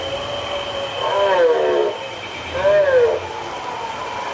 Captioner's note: dinosaur sounds